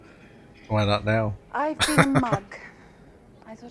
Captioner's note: laughing